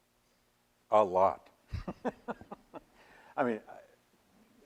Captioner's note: laughs